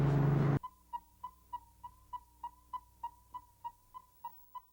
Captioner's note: ominous music; tracker beeping